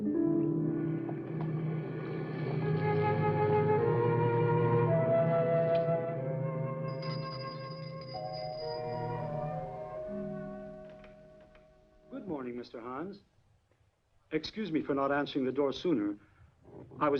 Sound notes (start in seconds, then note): 6.8 bell ringing